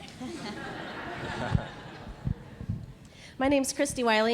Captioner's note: audience laughing